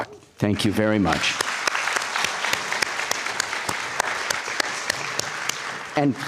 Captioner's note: applause